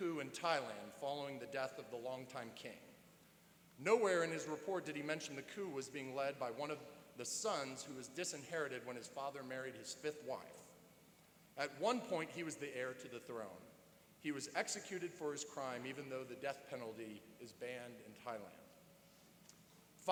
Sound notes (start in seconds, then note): none